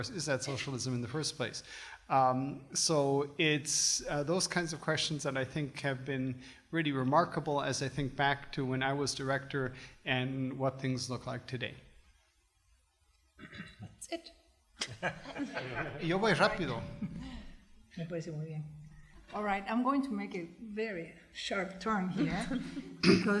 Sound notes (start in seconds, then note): 14.8 group laughter; 16.6 foreign language